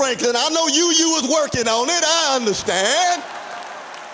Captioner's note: applause